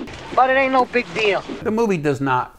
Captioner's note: graphics whooshing